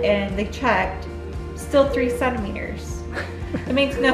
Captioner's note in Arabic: ضحكات خافتة